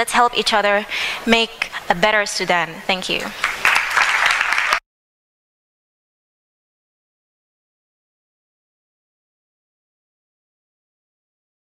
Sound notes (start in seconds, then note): 3.3 applause